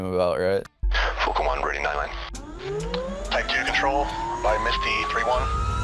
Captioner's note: radio noise